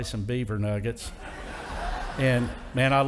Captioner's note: audience laughing